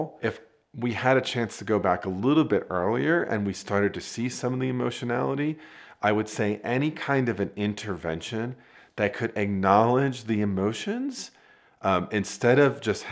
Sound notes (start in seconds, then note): none